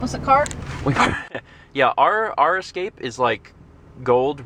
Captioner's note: laughs